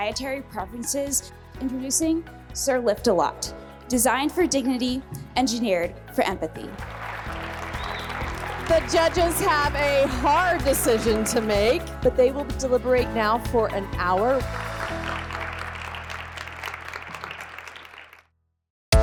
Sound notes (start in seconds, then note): 6.8 audience applauding; 14.4 audience applauds